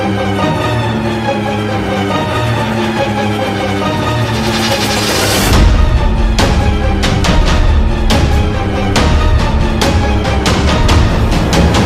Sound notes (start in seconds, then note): none